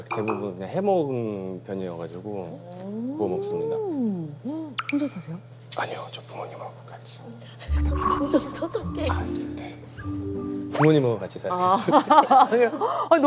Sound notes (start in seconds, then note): 5.7 whispering